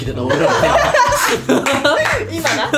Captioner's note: laughs